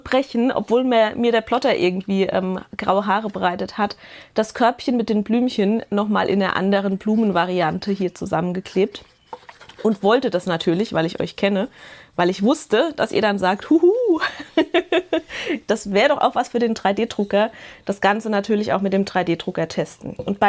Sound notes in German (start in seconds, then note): 14.2 Gelächter